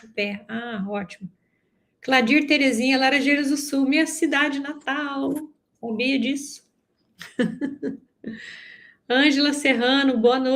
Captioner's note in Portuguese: risadas